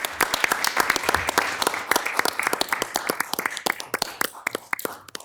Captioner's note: audience applauds